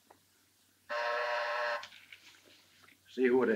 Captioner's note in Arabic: طنين الباب